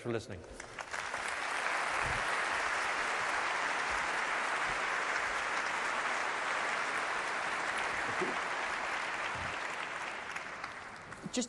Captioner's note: applause